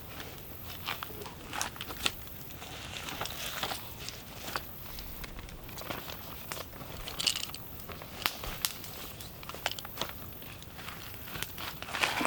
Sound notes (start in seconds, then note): 4.2 more rustling